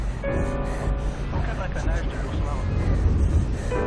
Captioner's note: panting; cars honking